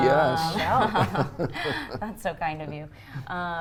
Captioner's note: everyone laughs